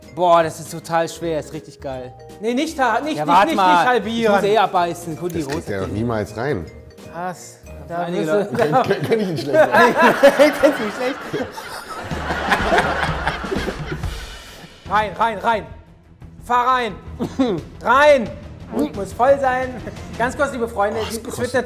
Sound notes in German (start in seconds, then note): 8.4 Lachen; 12.0 Gelächter; 17.2 hustet